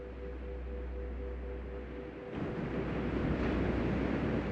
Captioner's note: waves crashing